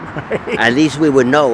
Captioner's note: laughing